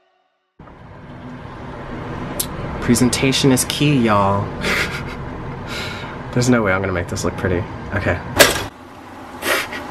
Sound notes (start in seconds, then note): 4.6 chuckles